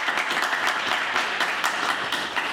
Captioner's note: applause